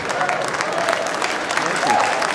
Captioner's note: audience laughing; audience cheering and applauding